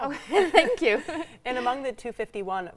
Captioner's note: laughs